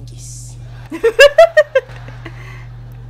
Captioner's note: laughing